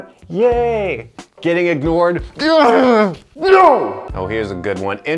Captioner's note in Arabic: يصرخ